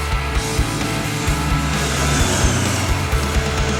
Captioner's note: motorcycle revving over music